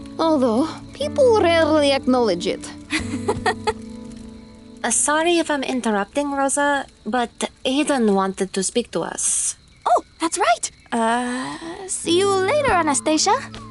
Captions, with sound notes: Although people rarely acknowledge it. [laughs] Sorry if I'm interrupting, Rosa, but Aiden wanted to speak to us. Oh, that's right! Uh… see you later, Anastasia.